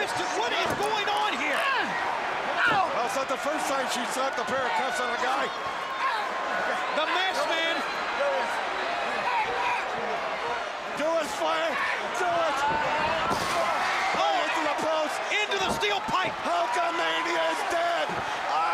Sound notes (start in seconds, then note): 8.3 crowd chatter